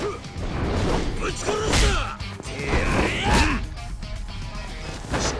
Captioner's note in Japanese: うめき声